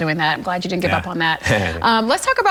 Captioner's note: chuckles